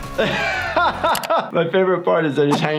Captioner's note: laughs